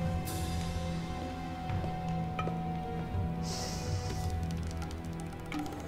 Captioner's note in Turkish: Ayak sesi